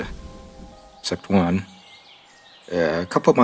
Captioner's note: wind and birds chirping